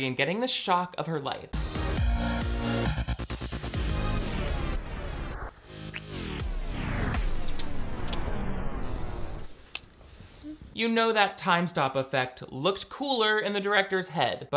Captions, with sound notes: and getting the shock of her life. (upbeat music) (music slowing) (lips smacking) You know that time stop effect looked cooler in the director's head,